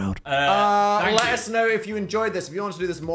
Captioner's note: Dan claps